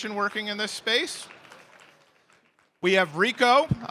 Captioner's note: applause